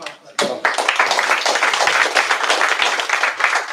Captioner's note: applause